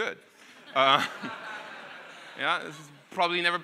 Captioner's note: audience laughing